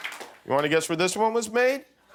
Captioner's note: applause